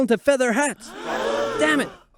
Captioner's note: gasp